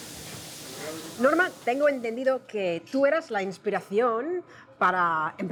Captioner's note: speaking Spanish